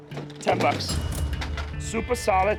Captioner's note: cash register dings